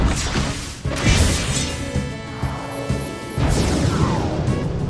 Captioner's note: attack whooshing; attack clanking